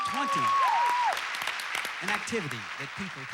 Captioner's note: audience applauding